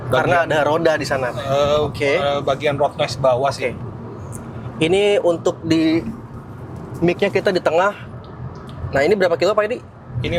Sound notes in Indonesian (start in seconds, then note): none